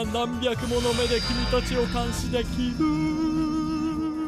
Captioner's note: dramatic voice